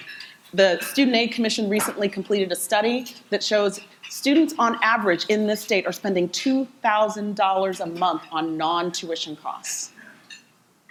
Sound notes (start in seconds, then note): none